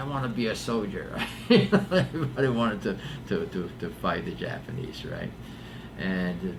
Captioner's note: laughs